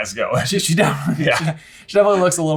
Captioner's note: both laughing